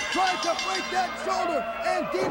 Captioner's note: bell ringing